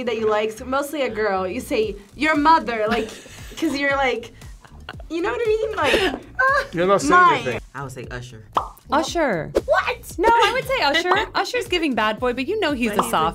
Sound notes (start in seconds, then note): 4.6 laughs; 8.5 bubble pops